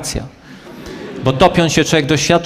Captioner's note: laugh